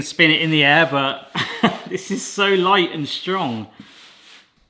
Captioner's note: laughs